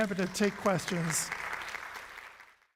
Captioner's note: audience applauds